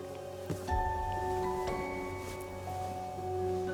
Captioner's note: hand thuds